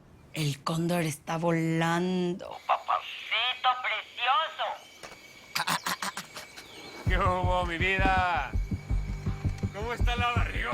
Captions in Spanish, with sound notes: EL CÓNDOR ESTÁ VOLANDO. ¡PAPACITO PRECIOSO! [Risas] ¿QUÉ HUBO, MI VIDA? ¿CÓMO ESTÁ LA BARRIGONA